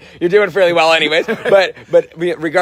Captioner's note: laughing